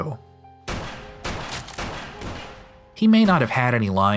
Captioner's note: gunshots